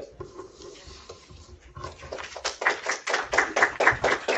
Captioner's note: applause